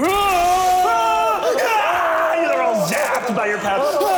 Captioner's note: grunting and yelling